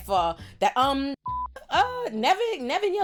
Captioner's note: beep